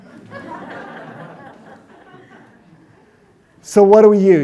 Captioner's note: audience laughs